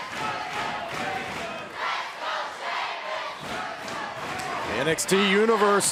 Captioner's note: fans chanting